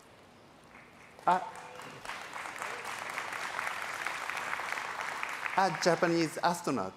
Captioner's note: applause